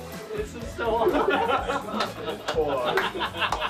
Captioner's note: laughing